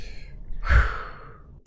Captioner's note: sharply exhales